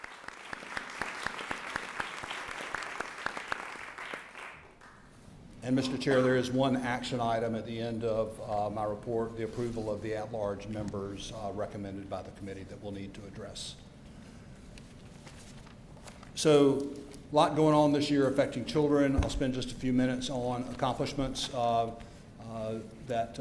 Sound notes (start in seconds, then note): 0.0 applause